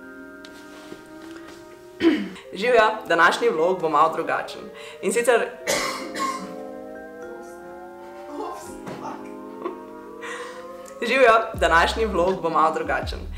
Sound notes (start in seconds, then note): 5.6 caughing in the background